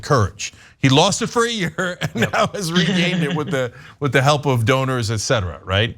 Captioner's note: laugh